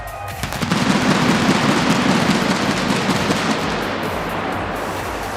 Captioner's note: fireworks blasting